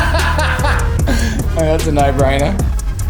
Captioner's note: laughs